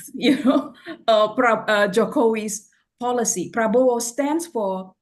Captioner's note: laughs